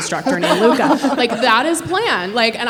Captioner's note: everyone laughing